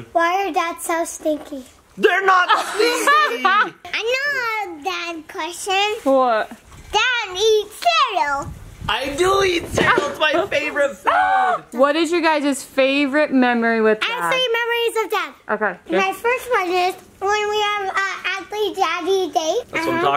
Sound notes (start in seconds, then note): 2.4 laughing